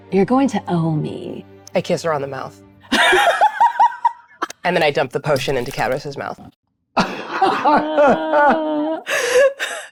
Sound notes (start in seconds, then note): 2.9 laughs; 7.0 group laughs